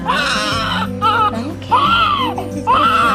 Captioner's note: baby crying